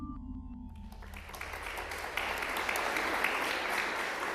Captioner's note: applause